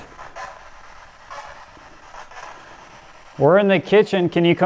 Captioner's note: radio static